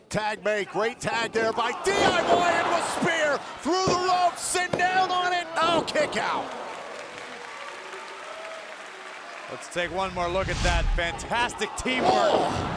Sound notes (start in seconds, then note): 5.8 audience applauding; 7.0 audience cheering